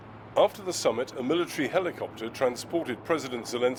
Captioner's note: voice-over